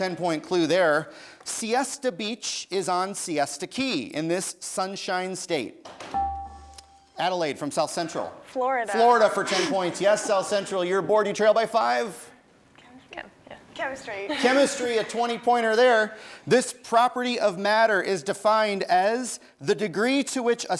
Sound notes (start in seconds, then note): 6.1 bell rings; 9.0 laughs